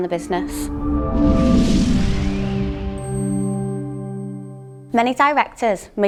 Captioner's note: upbeat swooshing sound